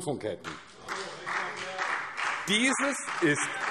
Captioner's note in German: Demonstrativer Beifall